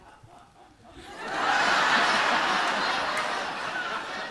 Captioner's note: audience laughs